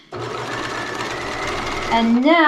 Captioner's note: sewing machine humming